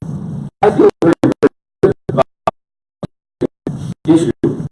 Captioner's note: audio cutting out